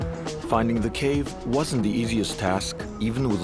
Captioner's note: speaks Arabic